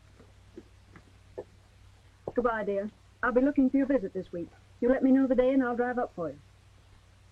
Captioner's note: none